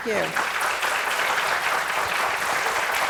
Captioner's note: applause